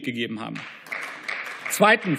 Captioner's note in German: Beifall